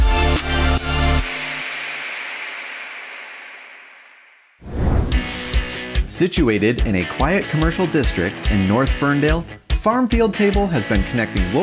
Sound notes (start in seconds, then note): 4.6 logo whooshes